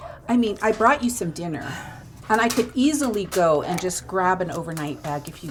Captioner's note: none